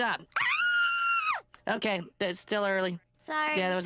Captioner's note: screams